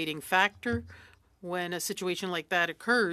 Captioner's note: speaking French